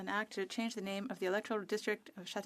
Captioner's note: speaking French